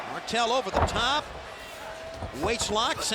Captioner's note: fans cheering